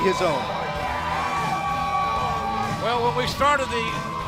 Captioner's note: crowd cheering